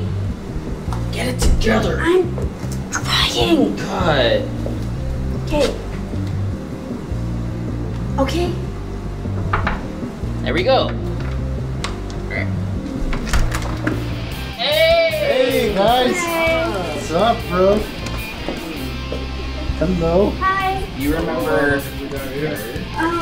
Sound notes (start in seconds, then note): 0.6 aggressively; 9.3 knocking on door; 12.8 door creaking